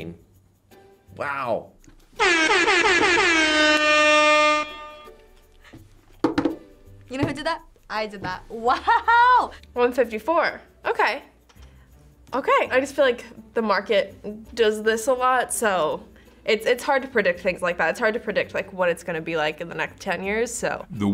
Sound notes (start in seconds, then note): 2.1 air horn blaring